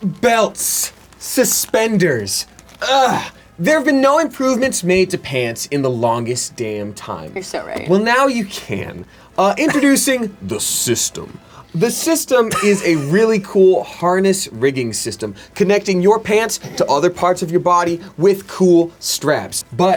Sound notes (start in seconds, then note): 2.8 grunts